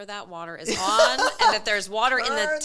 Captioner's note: laughing